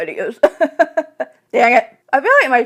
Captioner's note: laughs